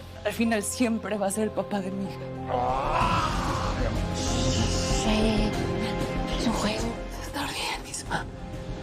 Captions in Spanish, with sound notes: Al final, siempre va a ser el papá de mi hija. [Grito] - Ey, ey, ey. Es un juego. - Vas a estar bien, Isma.